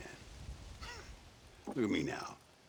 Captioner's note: laugh